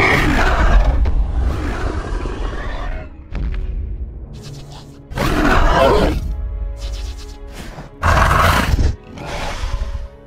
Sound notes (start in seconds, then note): 0.0 Ares low rumble with growl; 2.2 Ares stomping sounds with loud growl